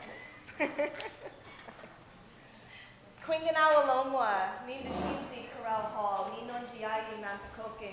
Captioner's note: laughter, speaks in Munsee